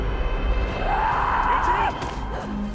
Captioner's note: scream